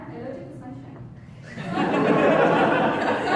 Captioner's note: audience laughs